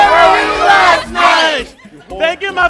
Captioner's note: laughter, chatter